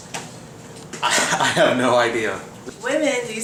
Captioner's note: laughs